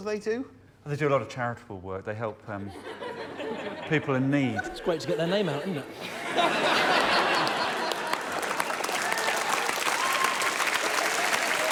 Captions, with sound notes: -Phenomenal right? -For me that was... Yeah, obviously there's an issue. We'll deal with that. -[laughter] -But you are beyond the pale. And everyone's applauding. Well done.